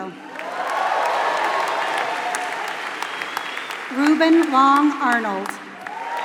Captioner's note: applause